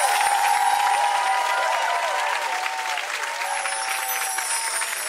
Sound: crowd applauding

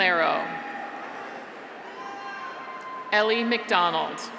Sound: graduates cheer

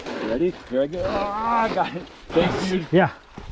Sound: grunts

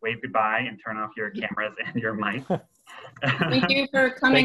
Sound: everyone laughs

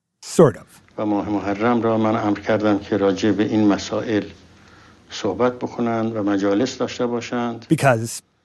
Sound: Speaking Farsi

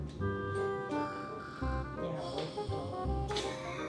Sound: snores

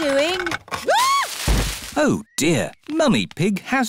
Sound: screams; thuds

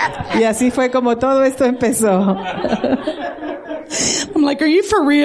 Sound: laughter

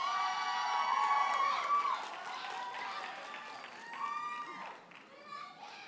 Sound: audience cheers and applauds

